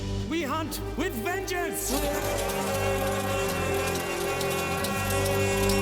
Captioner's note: all shouting